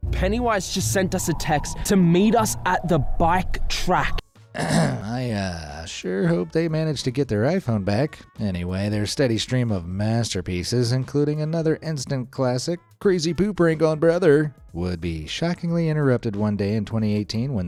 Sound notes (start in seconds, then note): 4.5 clears throat